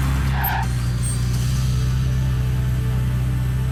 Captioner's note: tires screech